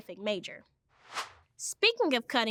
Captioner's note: air whooshes